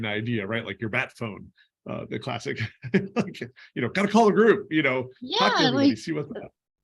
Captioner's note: laughter